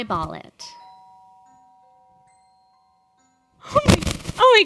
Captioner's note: doorbell dinging